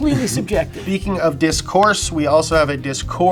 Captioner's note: chuckles